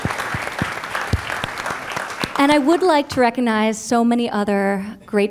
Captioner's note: applause